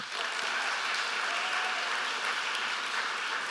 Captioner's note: applause